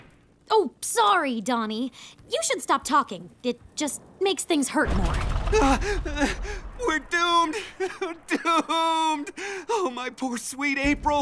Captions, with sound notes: Oh sorry, Donnie. You should stop talking. It just makes things hurt more. Uh, we're doomed, doomed. [sobbing] Oh, my poor, sweet April!